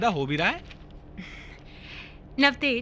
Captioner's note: chuckling